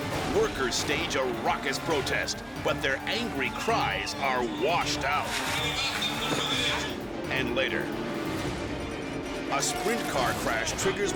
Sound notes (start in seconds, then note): 5.2 water splashing